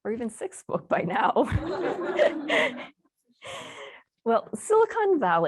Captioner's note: laughter